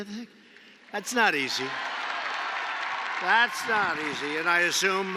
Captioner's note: applause